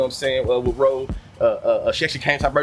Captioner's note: birds Chirping